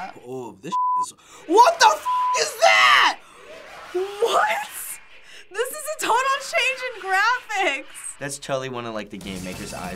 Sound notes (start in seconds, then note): 3.3 Flowey cackling